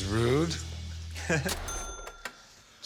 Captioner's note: laughs